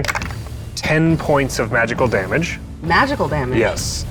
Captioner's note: die rattling